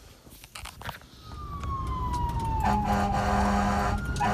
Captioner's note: siren wailing; horn honking